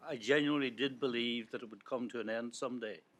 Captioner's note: none